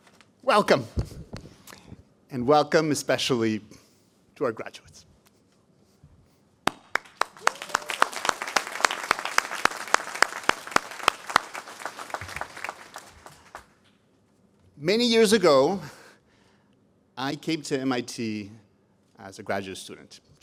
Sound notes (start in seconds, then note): 6.6 applause